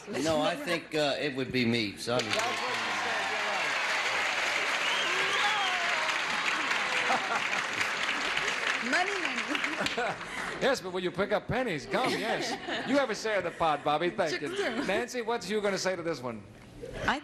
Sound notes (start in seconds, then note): 3.8 audience applauds